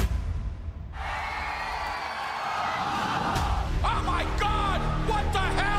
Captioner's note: crowd cheering